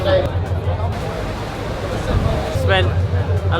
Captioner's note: people chattering